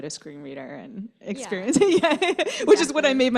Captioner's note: laughter